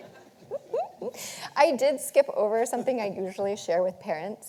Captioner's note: audience laughing